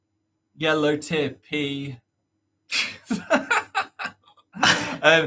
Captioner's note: laughs